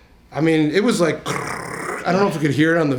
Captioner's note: mimics crunching